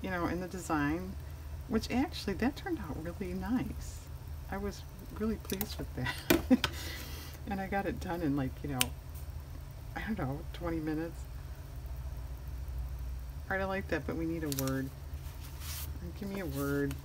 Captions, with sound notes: in the design which actually that turned out really nice, i was really pleased with that (laughs) and i got it done in like, i don't know, 20 minutes alright i like that but, we need a word give me a word